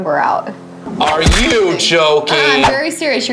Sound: thudding

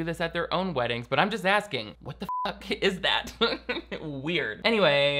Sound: beep

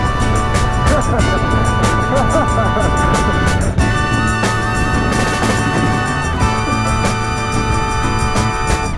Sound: chuckles

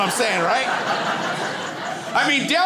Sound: crowd laughs

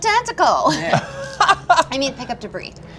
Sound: he laughs

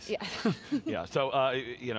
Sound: giggles

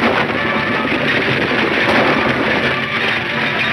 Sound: shots fire

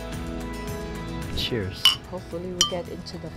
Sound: glasses clink

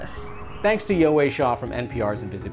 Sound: musical swoosh

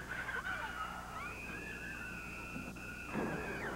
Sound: screaming

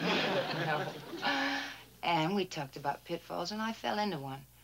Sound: laughing

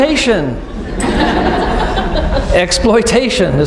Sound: laughing

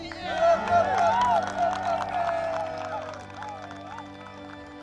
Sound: crowd cheering

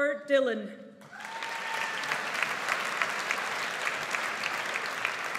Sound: audience applauds

